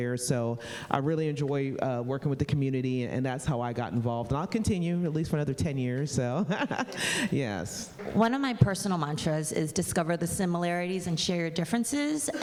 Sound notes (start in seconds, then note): 6.4 laughing